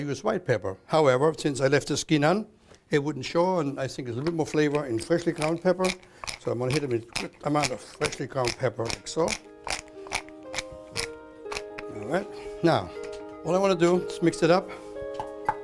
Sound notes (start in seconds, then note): 6.2 grinding